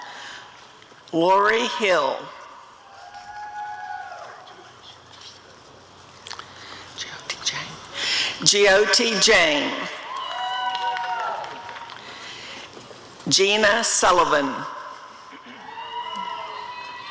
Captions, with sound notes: Lori Hill [audience cheering] Jyoti Jain [applause and cheering] Gina Sullivan [audience cheering]